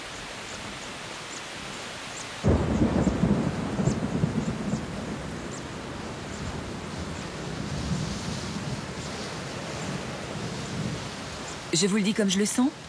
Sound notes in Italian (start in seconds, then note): 2.4 pioggia battente